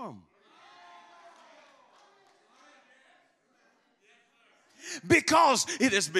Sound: congregants calling out

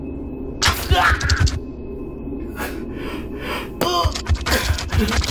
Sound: scorpion scurries

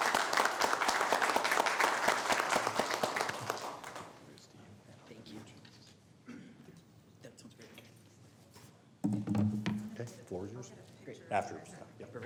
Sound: applause

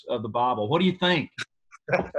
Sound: laughter

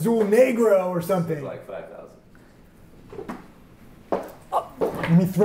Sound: object thuds

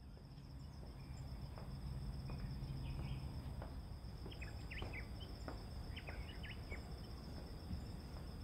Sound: birds

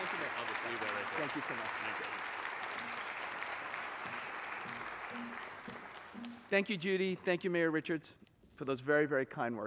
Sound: cheers and applause

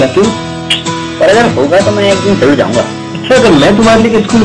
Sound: tch

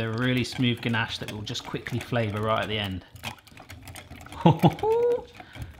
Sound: laughs

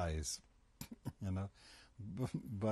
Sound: laughs

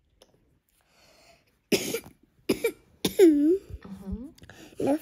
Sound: cough

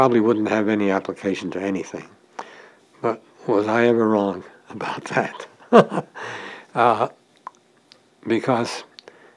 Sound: chuckle

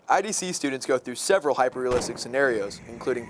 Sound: gun bangs

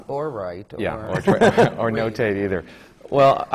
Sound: laughs

